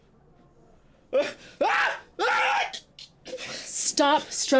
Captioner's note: Alan screaming